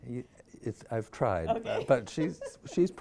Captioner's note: laughs